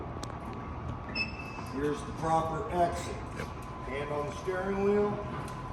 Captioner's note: door closing